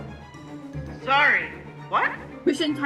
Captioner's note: on phone